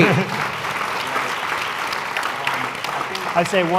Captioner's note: applause